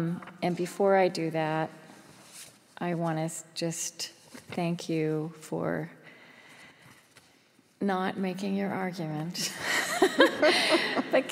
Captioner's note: laughs